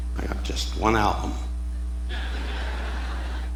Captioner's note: audience laughing